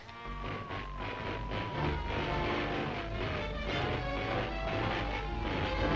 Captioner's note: Transformer whining and crackling